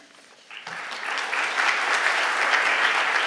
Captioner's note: applause